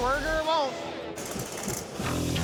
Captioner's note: crackling; dramatic music